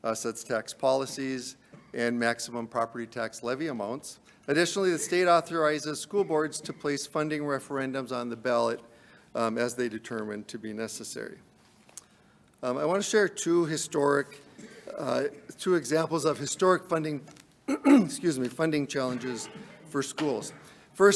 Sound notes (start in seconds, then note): 17.6 clears throat